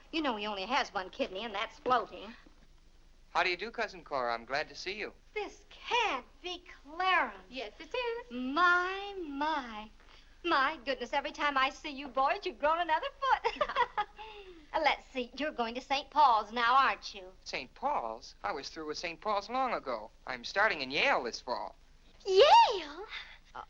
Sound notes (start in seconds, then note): 13.4 laughs